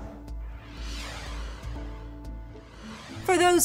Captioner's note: air whooshes